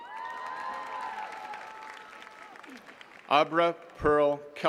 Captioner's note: attendees cheering and clapping